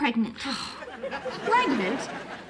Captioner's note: sighing